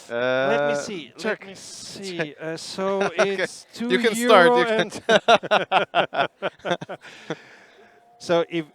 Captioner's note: laughing